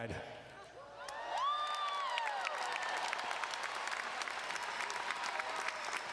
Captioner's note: audience cheering and applauding